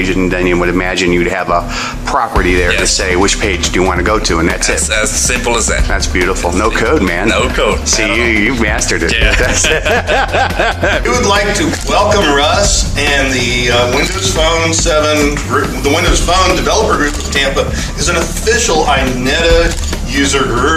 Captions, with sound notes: And then imagine you would have a property there, for say, which page you want to go to. And that's it. It's as simple as that. That's beautiful. No code, man! No code. See, you've mastered it. [LAUGHTER] We would like to welcome Russ and the Windows Phone 7 - the Windows Phone Developer Group of Tampa as an official INETA user group.